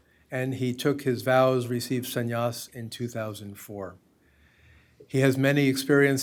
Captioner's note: hindi